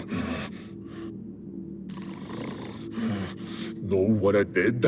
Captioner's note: panting